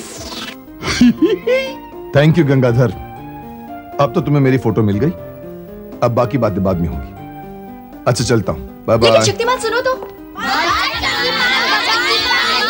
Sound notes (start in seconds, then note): 0.8 giggles